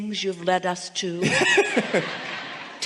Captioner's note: guest and audiance laughing